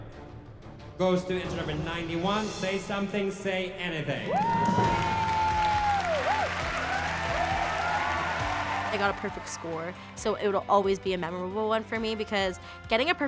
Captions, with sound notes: goes to entry number 91, "Say Something, Say Anything." [cheers and applause] [bright music playing] I got a perfect score, so it'll always be a memorable one for me because getting a perfect score